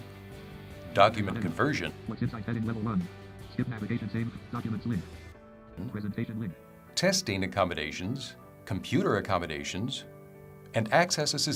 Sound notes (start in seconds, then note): 1.5 electronic voice on computer